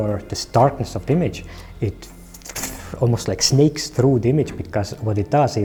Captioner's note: hisses